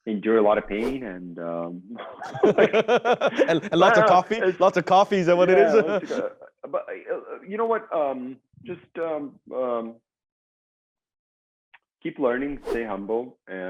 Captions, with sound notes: - Endure a lot of pain, and.. (both laugh) - And lots of coffee, lots of coffees, is that what it is? - You know what? Just keep learning, stay humble,